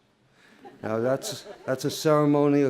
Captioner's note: laughter